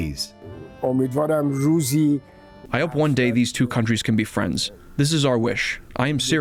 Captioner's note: through translator